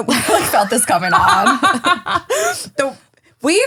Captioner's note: laughing